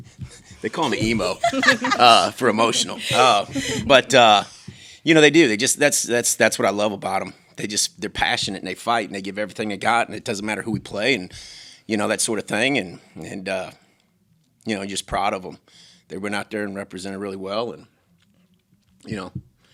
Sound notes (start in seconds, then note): 0.6 laughs; 3.3 laughing